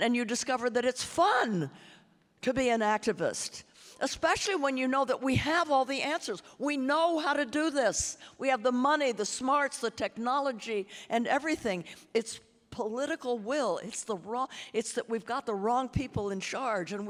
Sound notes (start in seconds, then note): none